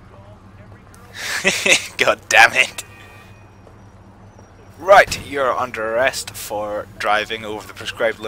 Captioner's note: laughing